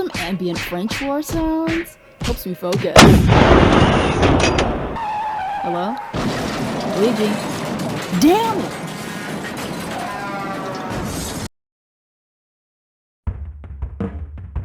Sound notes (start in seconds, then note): 2.9 cannon explodes; 5.0 car crashes; 6.6 car crashes; 9.0 truck horn